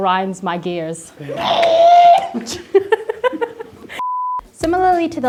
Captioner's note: screeching, laughing